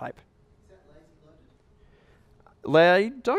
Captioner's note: voiceover